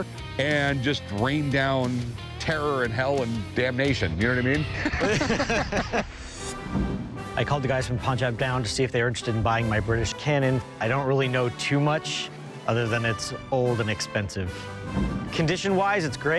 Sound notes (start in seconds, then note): 4.6 both laugh